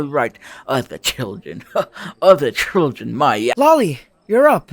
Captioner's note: scoff